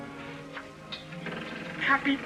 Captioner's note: door creaks